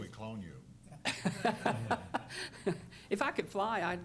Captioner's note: laughter